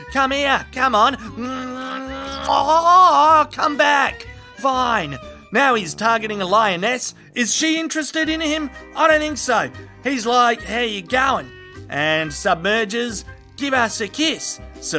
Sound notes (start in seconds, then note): 1.6 turtle Smooching noises